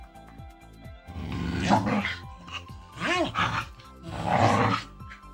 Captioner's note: growling